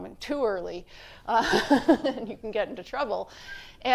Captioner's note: laughs